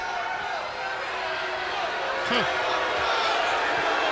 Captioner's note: crowd cheering